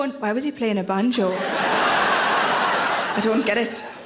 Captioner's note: audience laughing